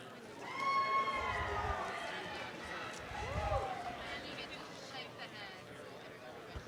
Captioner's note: audience applause